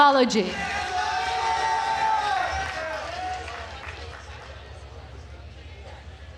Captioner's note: attendees cheering and applauding